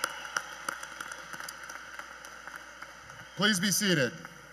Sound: cheers and Applause

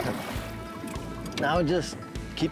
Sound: water splashing

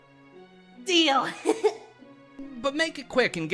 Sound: giggles

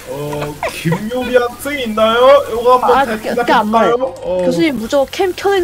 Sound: again, making average professor voice

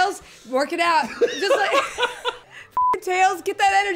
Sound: laughing

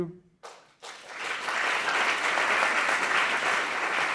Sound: audience clapping

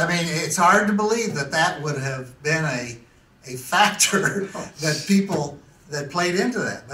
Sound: laughs

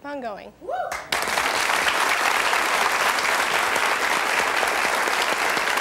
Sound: audience applauding

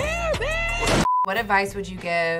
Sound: beep

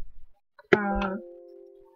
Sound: computer Blongs

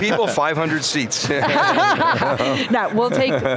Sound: laughing

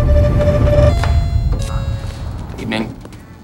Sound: bell dings

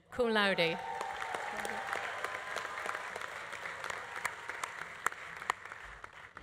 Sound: audience cheering; audience applauding

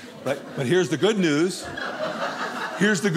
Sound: audience laughing

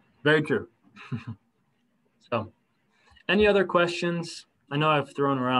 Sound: laughter

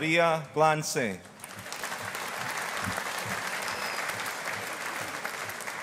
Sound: audience applauding

